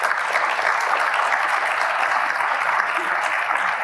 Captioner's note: applause